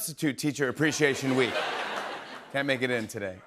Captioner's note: laughter